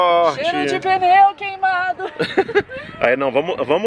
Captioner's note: laughter